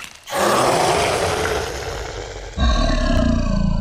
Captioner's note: growl